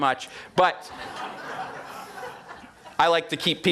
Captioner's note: audience laughing